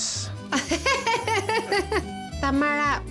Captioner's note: laughing